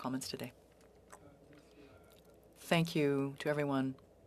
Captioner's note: speaking French